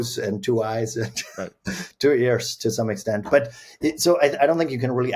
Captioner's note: chuckles